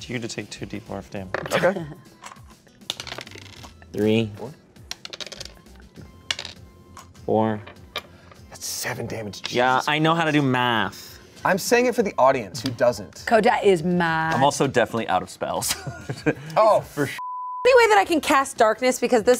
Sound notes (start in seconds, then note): 15.7 laughs; 17.2 beep